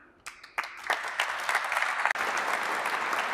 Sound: applause

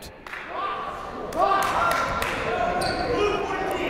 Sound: shouting; clapping

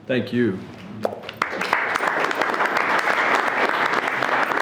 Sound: everyone clapping

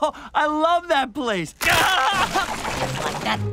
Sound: screaming

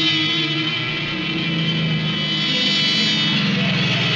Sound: dramatic instrumental music; car engine running

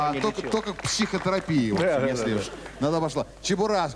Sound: applause

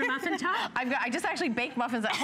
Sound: laughter

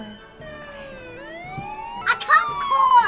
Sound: siren

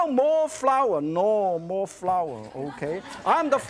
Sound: audience laughs

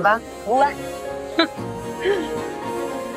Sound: chuckling

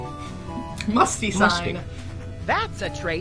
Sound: laughs

